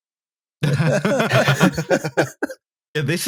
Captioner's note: laughter